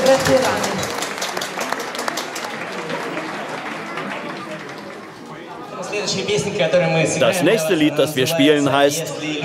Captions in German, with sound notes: (Applaus verklingt langsam, Stimmengewirr.) Das nächste Lied, das wir spielen, heißt: